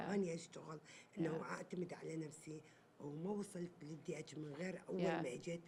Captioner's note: speaking Arabic